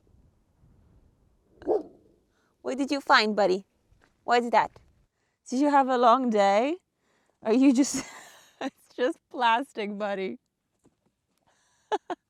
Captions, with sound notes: (Vilk barks) What did you find, buddy? Why is that? Did you have a long day? Are you just... It's just plastic buddy. (laughs)